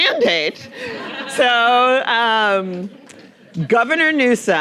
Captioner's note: audience laughing